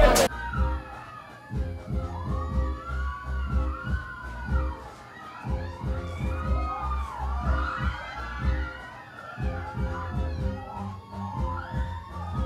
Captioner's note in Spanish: Gritos